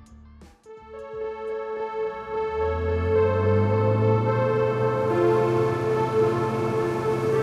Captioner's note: gentle music; motor engine humming